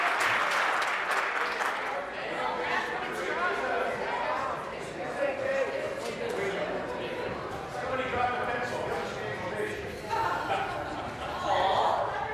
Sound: applause

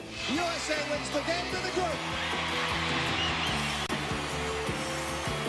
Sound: cheering

